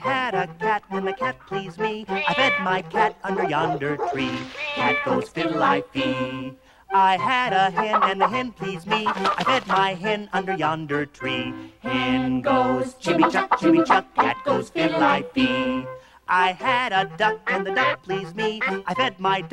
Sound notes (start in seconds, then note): 2.1 meow; 8.8 clucking; 18.4 quacks